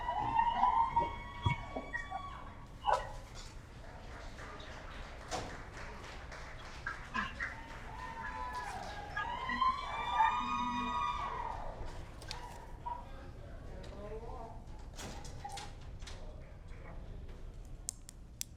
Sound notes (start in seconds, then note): 3.6 applause